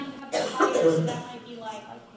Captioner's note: coughing Drowns Out Her Voice